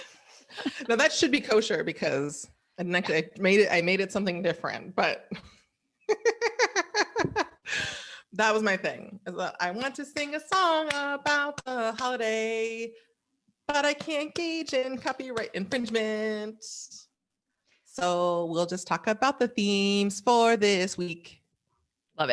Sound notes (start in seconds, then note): 6.2 laughs